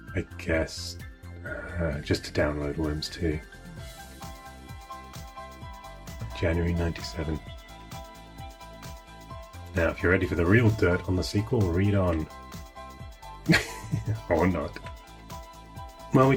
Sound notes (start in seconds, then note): 13.5 laughing